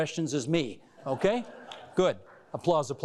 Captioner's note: laughing and applause